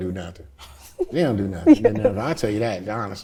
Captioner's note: laughs